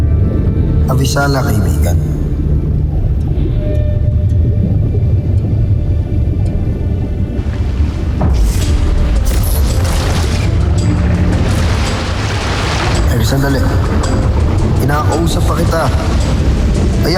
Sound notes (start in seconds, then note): 3.1 swooshing & swirling; 7.3 whooshing & swirling; 8.0 tense music playing